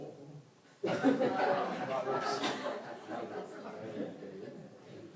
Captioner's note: audience chuckles